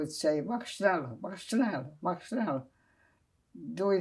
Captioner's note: german